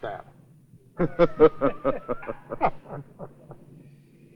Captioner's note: laughter